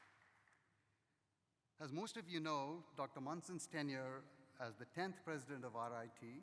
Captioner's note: applause